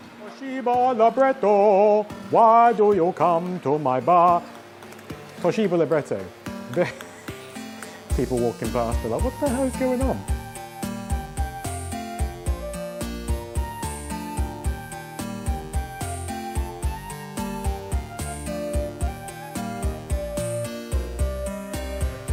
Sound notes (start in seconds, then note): 4.4 taps; 6.7 sniggers